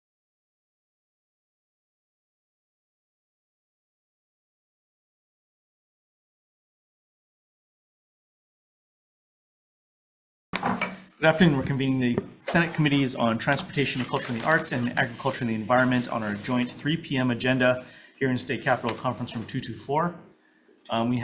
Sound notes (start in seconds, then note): 10.6 gavel taps